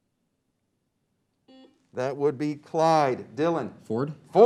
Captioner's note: beep